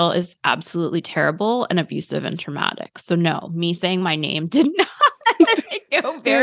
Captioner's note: laughter